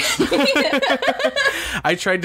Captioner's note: laughter